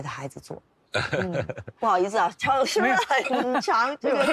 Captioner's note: laughs